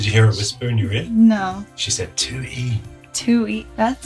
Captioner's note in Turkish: fısıldar